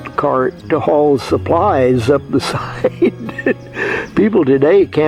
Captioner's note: laughs